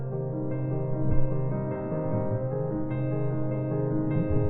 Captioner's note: water gurgling